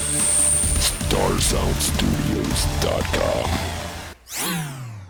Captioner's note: robot voice